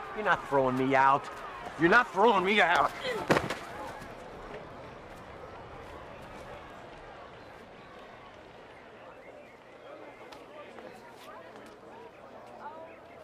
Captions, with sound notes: - You're not throwing me out. You're not throwing me out. (all murmuring)